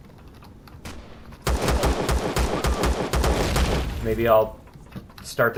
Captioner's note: turret turning and firing; explosion; pistol firing